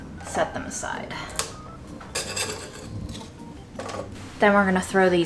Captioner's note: rattling sound